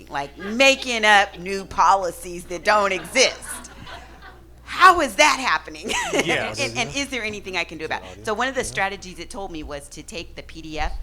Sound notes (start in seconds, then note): 3.5 audience laughing